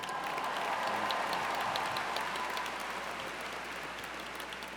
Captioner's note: cheers and applause